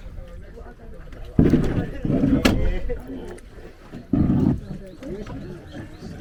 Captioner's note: sound of boat scraping rock